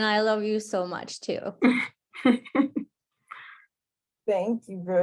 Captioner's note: laughter